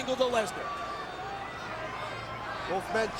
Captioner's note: audience chattering